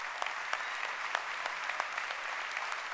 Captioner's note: applause